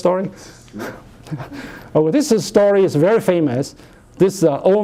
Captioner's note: chuckles